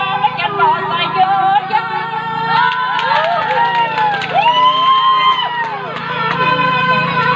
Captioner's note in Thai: ปรบมือ